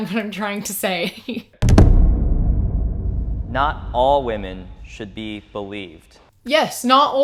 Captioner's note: booming sound